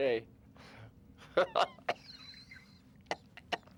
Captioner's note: laughs Madly; continues Laughing, Coughs